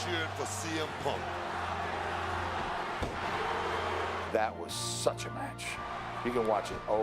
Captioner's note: applause